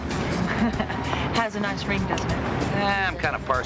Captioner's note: chuckling